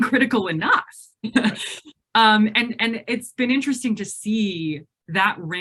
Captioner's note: laughs